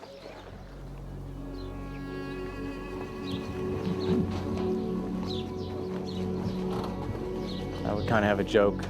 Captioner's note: birds chirping